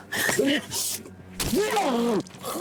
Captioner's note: fleshy sucking; choking